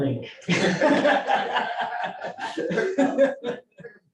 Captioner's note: laughter